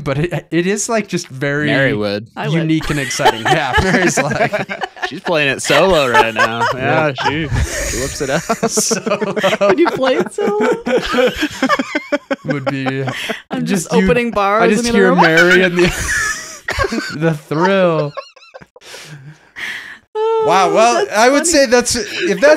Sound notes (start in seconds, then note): 3.7 laughing; 11.0 laughing